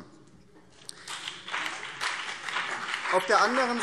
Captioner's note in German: Beifall BÜNDNIS 90/DIE GRÜNEN und vereinzelt CDU